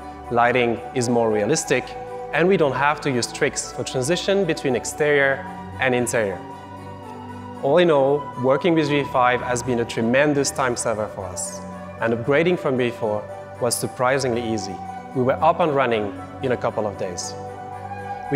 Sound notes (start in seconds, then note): none